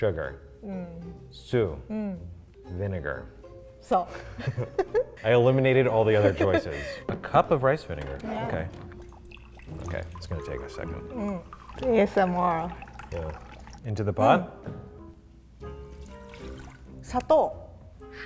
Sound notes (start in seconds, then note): 1.6 speaks in foreign language; 4.1 speaks in foreign language; 4.2 both laugh; 17.2 speaks in foreign language